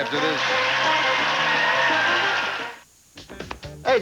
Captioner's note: audience applauding